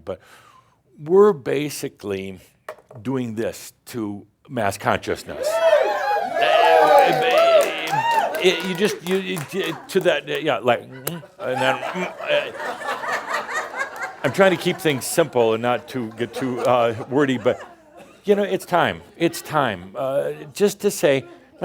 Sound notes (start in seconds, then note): 5.3 audience shouts “Woo!” and cheers; 13.3 laughter